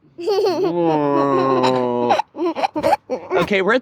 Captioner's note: giggles